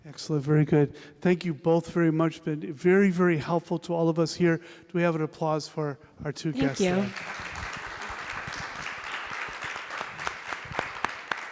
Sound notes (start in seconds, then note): 9.5 applause